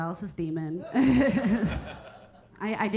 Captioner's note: Keira chuckling; audience laughing